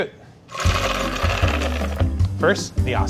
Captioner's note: almonds rattling